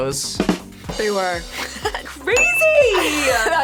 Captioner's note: rimshot echoes; laughs